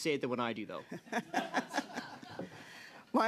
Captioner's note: laughter